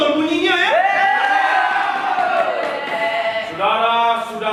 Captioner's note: farm animals cheer